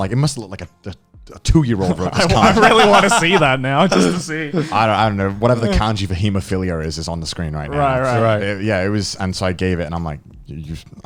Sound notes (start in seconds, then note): 4.1 laughing